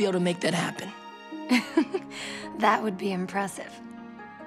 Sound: chuckles

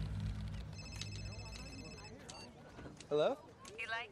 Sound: phone ringing

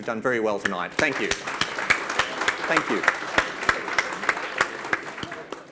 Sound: audience claps

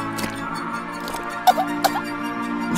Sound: coughs

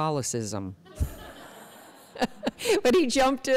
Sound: chuckle

